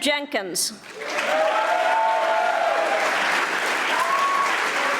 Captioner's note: audience applauding